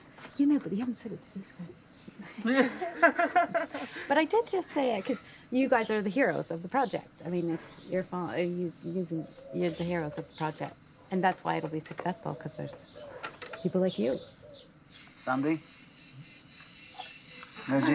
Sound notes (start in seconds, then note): 2.1 all laughing